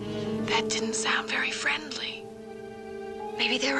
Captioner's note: whispering